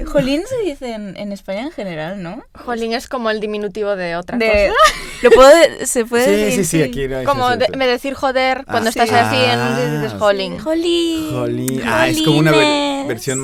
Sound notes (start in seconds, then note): 4.7 starts laughing